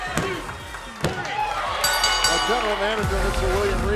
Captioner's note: bell ringing